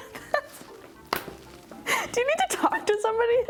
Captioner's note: laughing